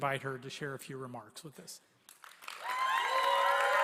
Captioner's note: applause